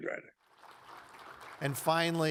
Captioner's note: audience applauds